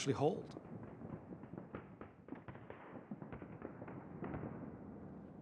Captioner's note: gunfire